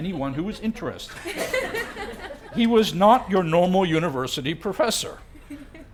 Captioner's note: laugh